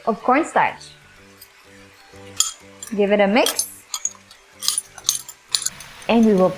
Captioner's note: spoon clanking